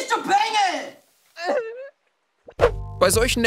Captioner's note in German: Schluchzen